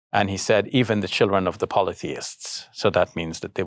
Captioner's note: speaking in foreign language